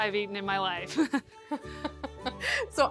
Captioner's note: laughter